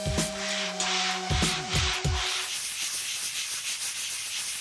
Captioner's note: scratching